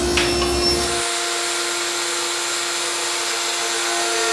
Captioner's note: saw whirring